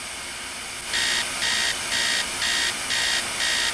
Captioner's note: alarm buzzes